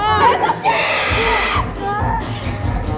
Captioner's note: +pterodactyl screech